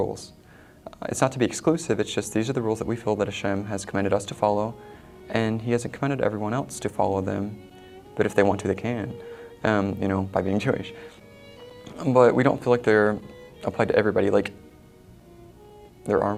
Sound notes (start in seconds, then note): none